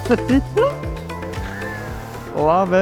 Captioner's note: car revving